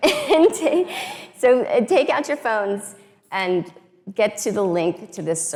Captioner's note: laughs